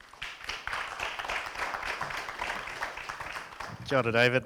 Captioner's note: audience claps